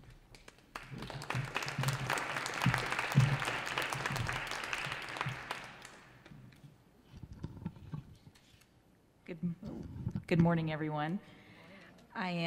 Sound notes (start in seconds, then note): 0.4 audience applauds